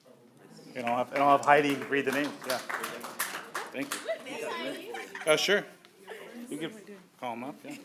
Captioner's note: applause